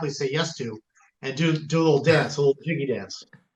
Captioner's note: laughs